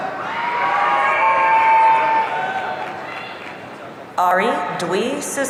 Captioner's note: audience cheering